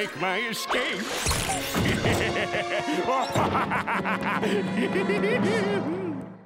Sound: laughing

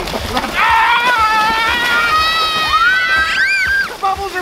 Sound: all shouting

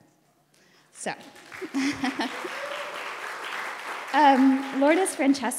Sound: laughs. audience applauds

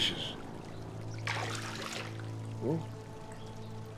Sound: water splashes

